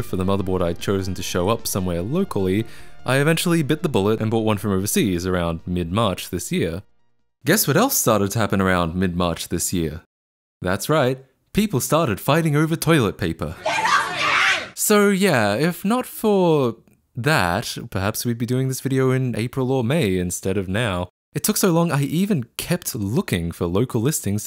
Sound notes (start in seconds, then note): 13.6 screeching